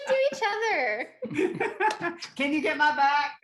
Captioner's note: all laughing